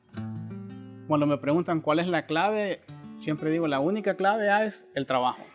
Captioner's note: speaking Spanish